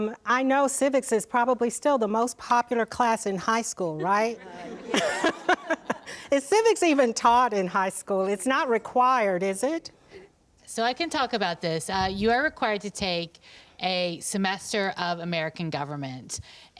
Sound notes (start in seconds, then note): 4.0 laughs